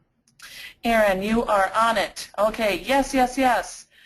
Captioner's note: voiceover